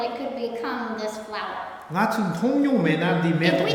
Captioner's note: speaking tibetan